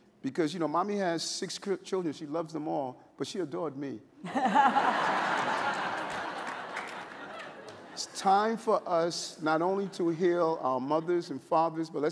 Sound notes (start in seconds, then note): 4.2 laughter